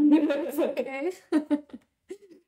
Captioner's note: both laughing